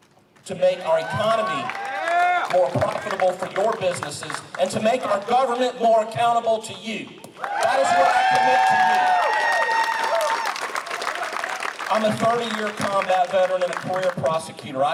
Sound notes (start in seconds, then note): 0.7 applause; 9.1 applause